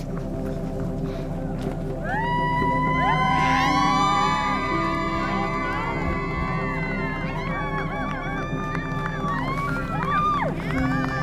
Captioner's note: crowd cheering